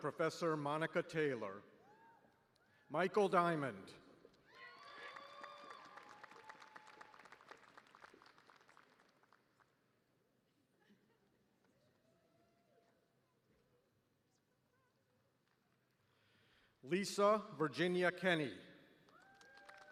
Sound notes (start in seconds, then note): 4.4 cheers and applause